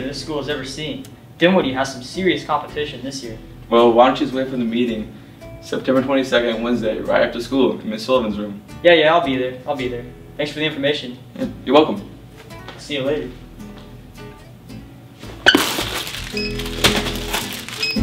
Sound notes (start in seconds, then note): 15.2 rustling; 16.9 more rustling